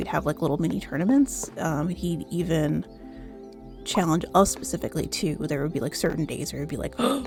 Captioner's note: gasp